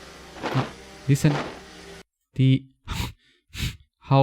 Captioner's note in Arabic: صوت التنفس